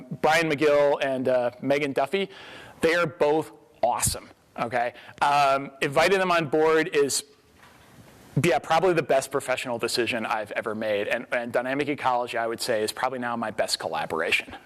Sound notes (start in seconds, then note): none